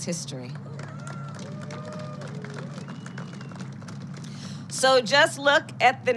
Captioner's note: applause